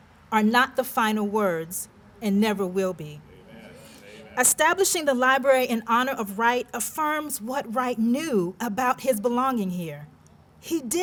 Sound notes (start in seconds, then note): 3.3 amens from audience